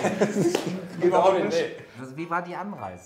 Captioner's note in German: Lachen, Durcheinanderreden